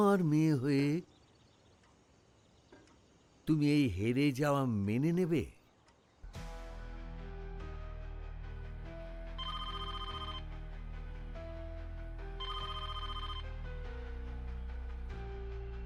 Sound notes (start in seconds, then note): 9.3 phone ringing